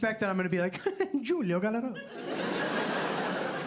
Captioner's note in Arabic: لهجة إيطالية; ضحك